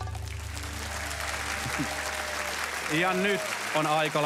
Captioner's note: applause